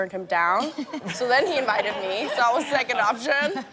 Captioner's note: all laughing